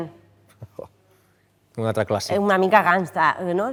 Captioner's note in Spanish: ríe